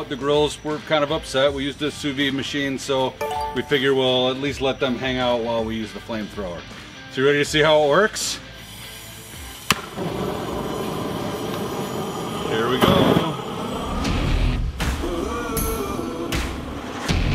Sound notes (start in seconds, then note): 9.9 flame thrower roaring; 14.2 intense rock music